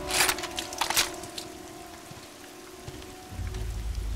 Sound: gun cocking

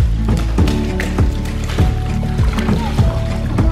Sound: splashing

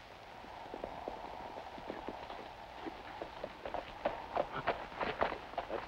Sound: wind

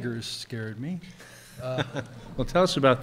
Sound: chuckles

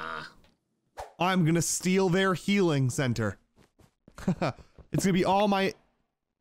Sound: laughs

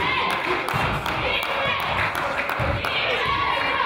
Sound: crowd applauds; claps

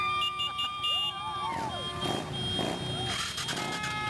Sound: cheering; engines revving

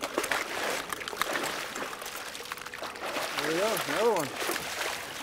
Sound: fish splashing

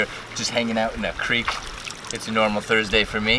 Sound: water splashes

